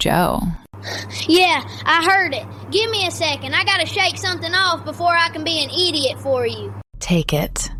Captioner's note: breath